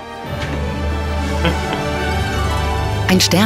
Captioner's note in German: Kichern